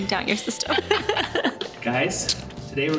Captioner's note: both laugh